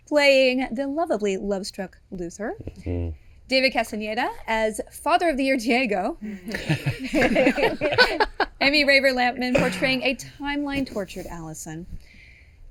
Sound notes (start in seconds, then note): 6.5 laughing